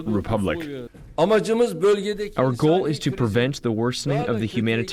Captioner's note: through translator